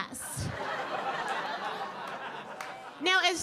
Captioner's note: audience laughing